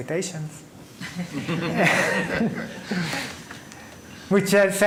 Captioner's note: laughing